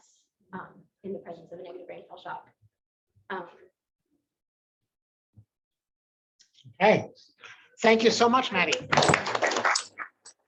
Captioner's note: applause